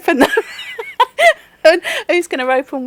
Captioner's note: loud laughing